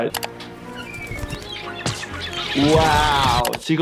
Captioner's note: seagull chirping